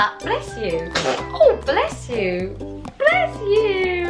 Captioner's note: baby sneezes